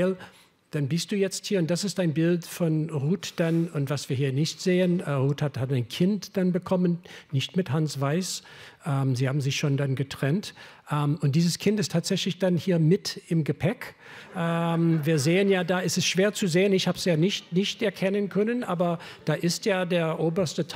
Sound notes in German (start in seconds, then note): 14.2 Lachen